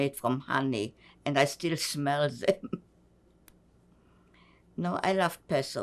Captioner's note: laughing